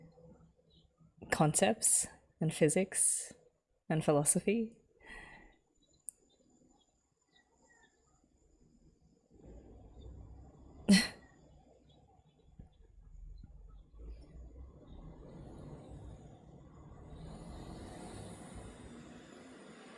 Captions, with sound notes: concepts and physics and philosophy. [chuckles]